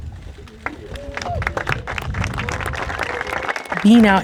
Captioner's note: audience claps